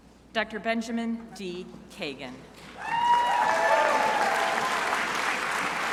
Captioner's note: crowd applauding